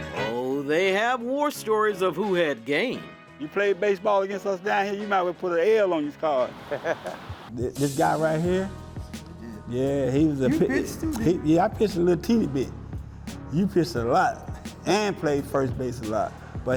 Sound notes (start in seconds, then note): 0.0 light upbeat music; 6.6 chuckles